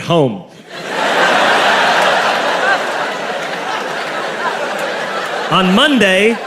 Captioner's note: crowd laughs